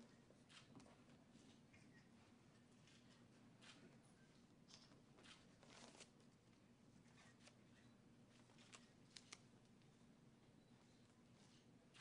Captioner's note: in Vietnamese